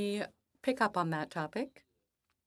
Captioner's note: speaking French